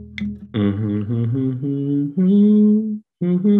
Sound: gentle music; humming

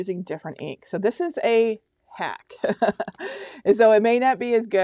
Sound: laughing

